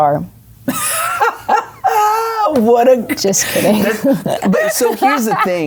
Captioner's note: laughing